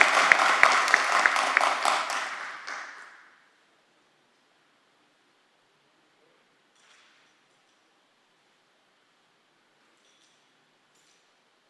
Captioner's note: applause